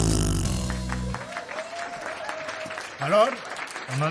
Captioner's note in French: Applaudissements